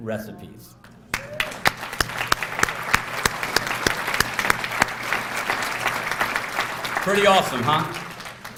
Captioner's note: applause